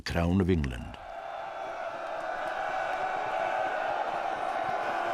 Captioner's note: crowd cheering